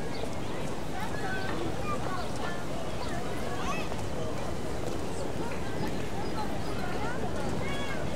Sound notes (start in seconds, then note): 1.9 conversations continue